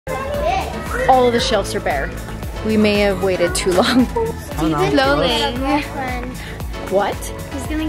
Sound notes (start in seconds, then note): 0.0 children chattering